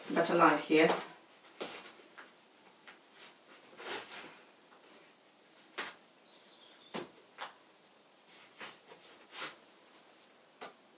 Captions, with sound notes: better light here. (shoelaces scrape through boots)